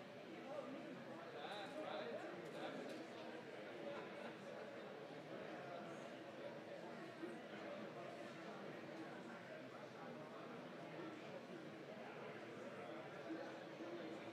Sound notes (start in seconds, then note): 0.8 indistinct chatters